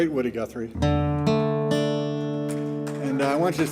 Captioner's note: gentle guitar strumming; audience applauding